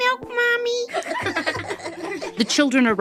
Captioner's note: laughter